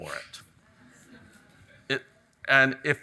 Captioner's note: audience chuckles